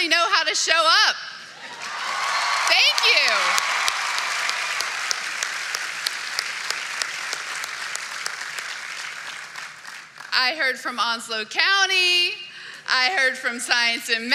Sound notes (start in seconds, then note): 5.6 cheering and applause